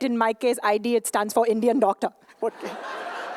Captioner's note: laughter